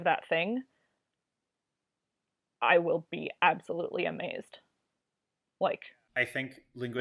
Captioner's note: pause